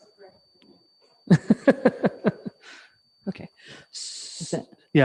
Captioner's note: laughs